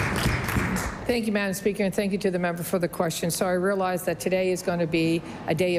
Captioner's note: applause